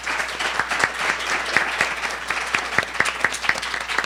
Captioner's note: audience applauding